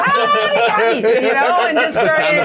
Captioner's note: group laughing